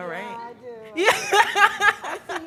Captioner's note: laughs